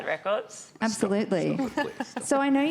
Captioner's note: laughs